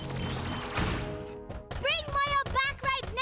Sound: beeping; pounding

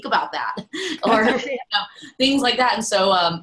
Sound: everyone laughs

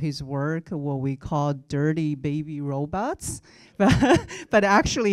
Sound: chuckling

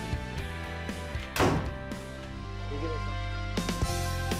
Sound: door slams; upbeat music

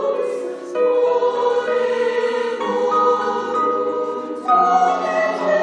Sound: choir speaks in foreign language

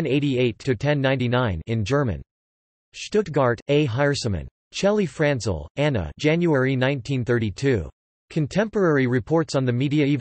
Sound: in German

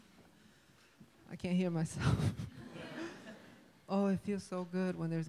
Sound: laughs

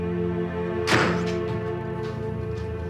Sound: door opens

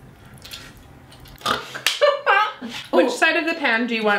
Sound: snorts and laughs

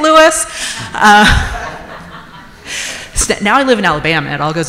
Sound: audience members chuckle

